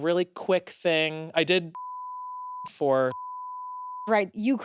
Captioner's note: beep